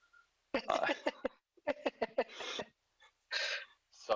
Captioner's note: laughing